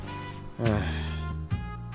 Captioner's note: sigh